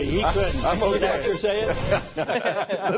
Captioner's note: laughter